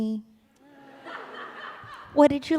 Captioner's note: laughter